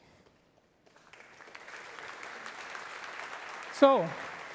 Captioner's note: applause